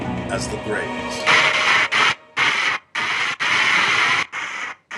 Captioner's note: TV static